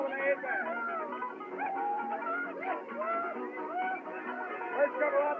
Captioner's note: men Shouting, Whooping